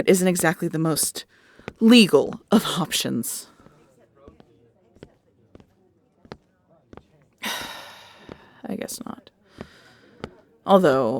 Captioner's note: sigh